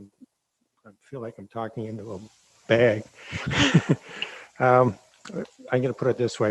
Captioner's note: chuckles